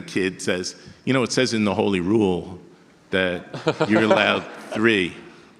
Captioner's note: audience laughter